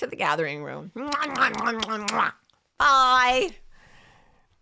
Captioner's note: blowing kisses